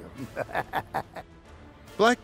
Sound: evil laughter

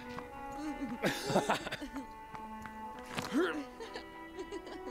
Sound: both laughing; Brigit giggles

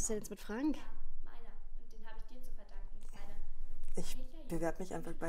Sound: TV is running

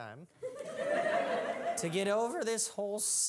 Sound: audience laughing

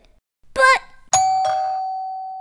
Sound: doorbell

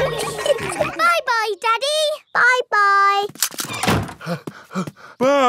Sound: snorts; panting

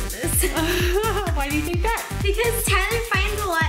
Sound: laughing

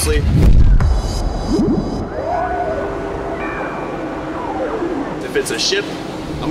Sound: sonar sounds

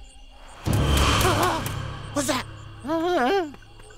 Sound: whimpers

